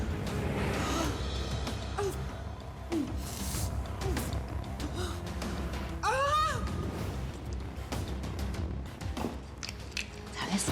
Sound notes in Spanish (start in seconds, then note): 6.0 gritos